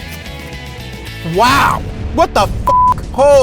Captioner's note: beeps